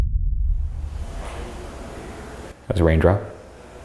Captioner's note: deep ominous music; mysterious tapping